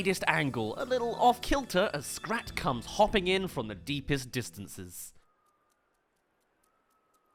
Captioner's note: hopping